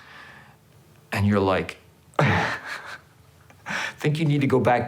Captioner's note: laughs